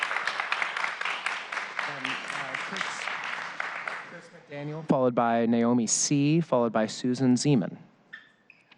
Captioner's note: applause